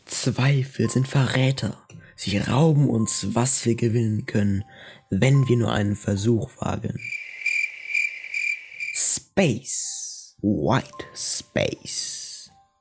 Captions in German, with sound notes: Zweifel sind Verräter, sie rauben uns, was wir gewinnen können, wenn wir nur einen Versuch wagen. *zirpen* Space… - White Space.